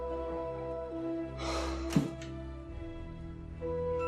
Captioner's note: sighing